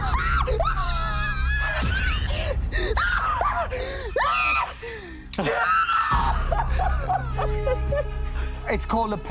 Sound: screaming

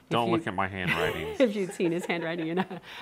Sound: laughing

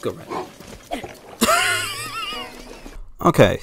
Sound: wheeze

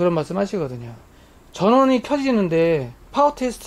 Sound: the fan is running

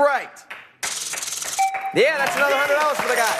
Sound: chime

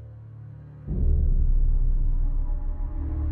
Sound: bang

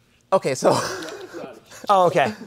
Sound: laughs

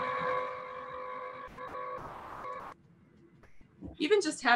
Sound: Cricut whirring

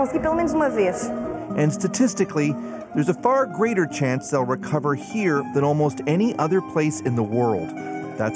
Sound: speaking foreign language

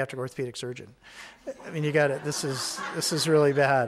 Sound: audience laughing

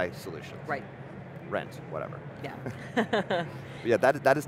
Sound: chuckles

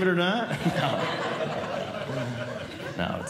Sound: audience Laughing

